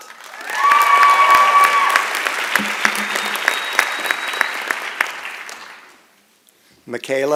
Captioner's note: applause and Cheering